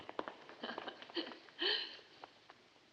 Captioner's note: laughs